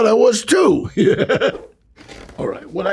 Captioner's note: Danny chuckles